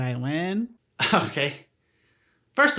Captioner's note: In Aang's voice; scoffs